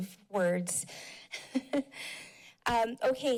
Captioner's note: chuckles